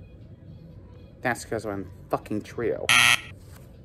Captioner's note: buzzer sounds